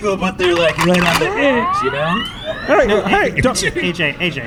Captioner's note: racks rifle